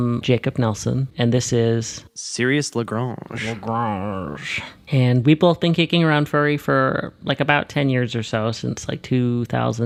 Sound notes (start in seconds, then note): 3.5 with French accent; 4.6 normal voice